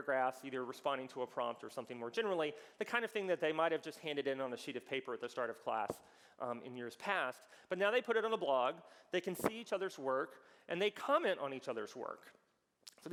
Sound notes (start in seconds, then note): none